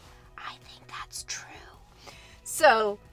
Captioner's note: whispering